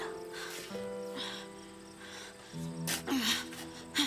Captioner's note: labored breathing